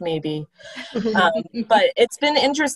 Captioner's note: laughter